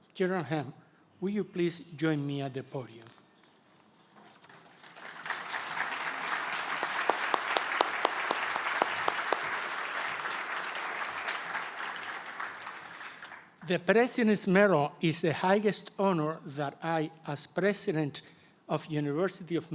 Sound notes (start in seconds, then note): 6.2 applause